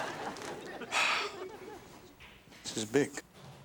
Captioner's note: Alex sighs